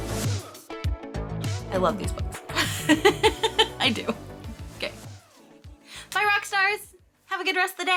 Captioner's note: laughs